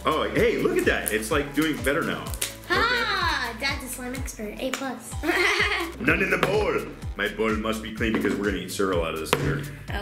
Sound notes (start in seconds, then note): 5.2 laughs